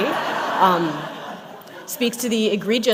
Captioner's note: laughter